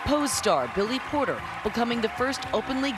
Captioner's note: applause